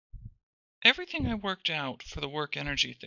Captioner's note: voiceover